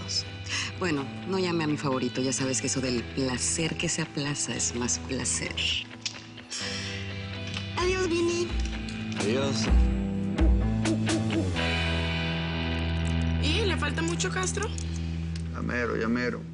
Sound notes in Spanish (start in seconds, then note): 7.4 Chasquido bucal